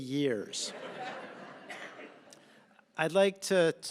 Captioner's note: laughter